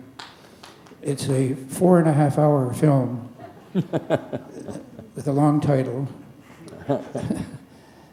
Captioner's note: chuckle; laughter